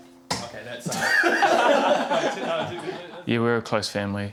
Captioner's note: laughter